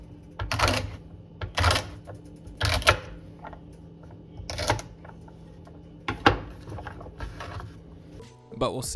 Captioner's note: chopping sounds